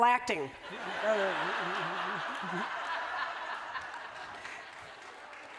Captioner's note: laughter